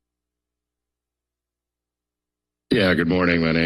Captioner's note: silence